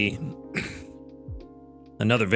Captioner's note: chuckles